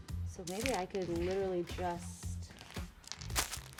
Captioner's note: none